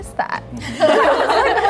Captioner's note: everyone laughs